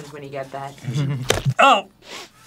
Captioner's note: thwack